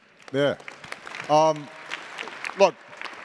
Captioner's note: attendees applauding